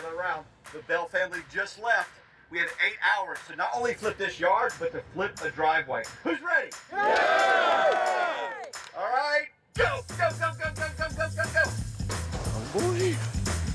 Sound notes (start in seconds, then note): 6.9 cheering